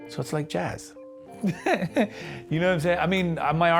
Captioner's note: laughs